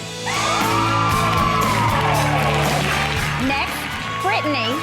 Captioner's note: gentle music; group cheers